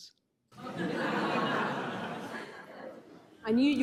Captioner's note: crowd laughing